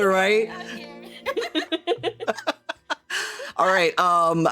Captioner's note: laughing